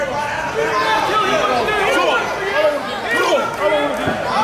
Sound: crowd yelling

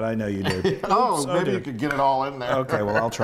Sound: laugh

